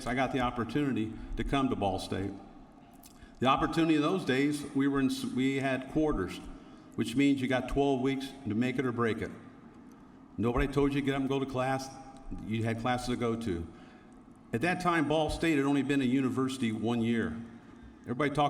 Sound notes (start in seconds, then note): none